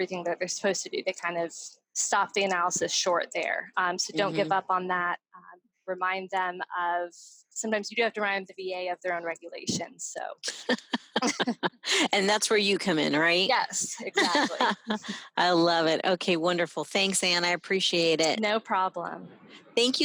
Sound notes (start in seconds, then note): 10.5 both laughing; 13.9 laughs